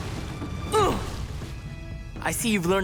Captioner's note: grunting